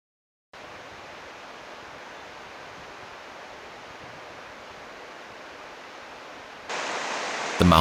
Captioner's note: szum rzeki